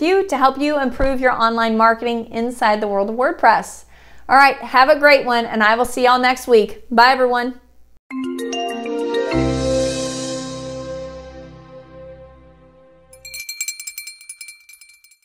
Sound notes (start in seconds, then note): 8.1 gentle music; 13.0 bells clanking